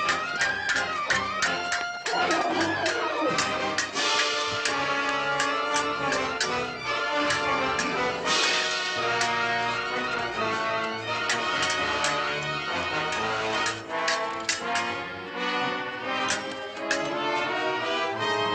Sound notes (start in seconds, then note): 2.0 whinnies